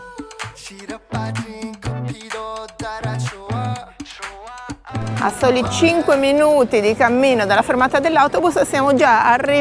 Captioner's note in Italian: Applauso